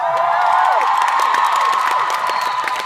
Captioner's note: pauses to let crowd cheer